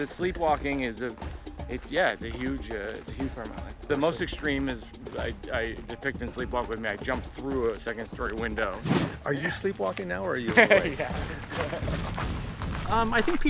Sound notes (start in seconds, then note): 10.4 laughing; 12.1 dramatic music